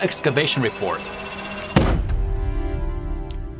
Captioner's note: report thuds